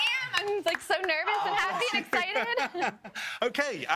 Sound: applause

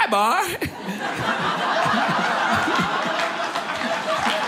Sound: audience laughing; audience applauding

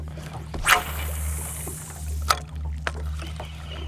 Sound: reel spinning

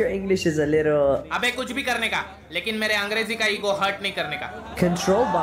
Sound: non-english speech

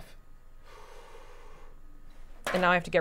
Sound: inhaling sharply

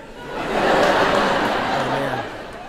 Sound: people laughing

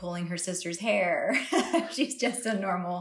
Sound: laughs

